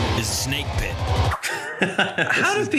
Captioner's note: laughing